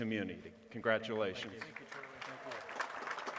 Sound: applause

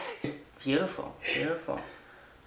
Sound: both laughing softly

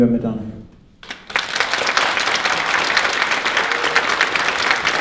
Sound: audience clapping

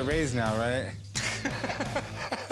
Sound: laughing

